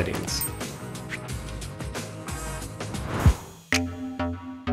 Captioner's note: bell dinging; upbeat music